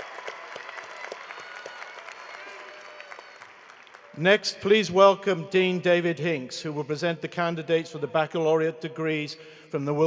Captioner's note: cheering and applause